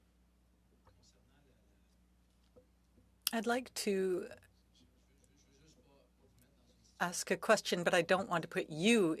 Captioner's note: speaking French